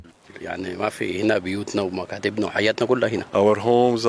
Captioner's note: speaking Arabic